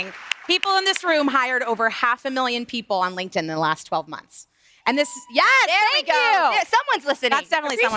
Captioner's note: applause